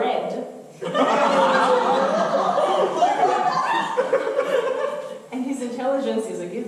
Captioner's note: audience laughter